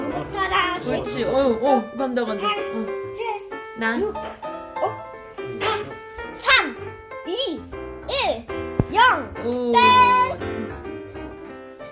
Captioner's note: pitter-patter